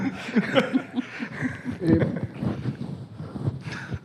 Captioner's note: laughing